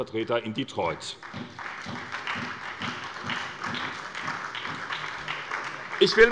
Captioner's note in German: Beifall bei der SPD und bei Abgeordneten der CDU